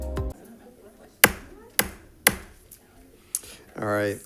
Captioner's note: gavel bangs